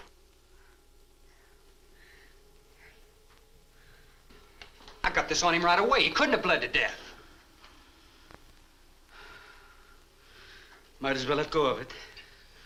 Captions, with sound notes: I got this on him right away! He couldn't have bled to death. (Marlowe sighs) - Might as well let go of it.